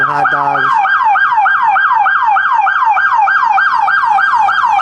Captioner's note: sirens